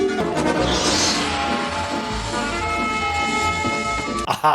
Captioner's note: dark suspenseful music; snake hissing